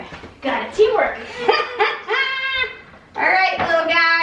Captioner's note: laughs